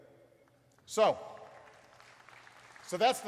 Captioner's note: applause